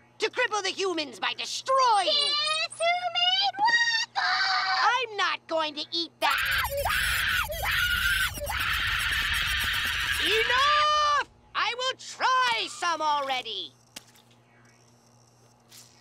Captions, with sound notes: - To cripple the humans by destroying-- - Guess who made waffles! I'm not going to eat that-- [wailing hysterically] Enough! I will try some already!